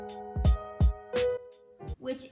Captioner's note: music stops